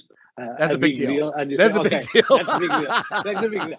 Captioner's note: laughs